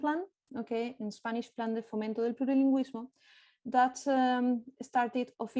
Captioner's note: speaking spanish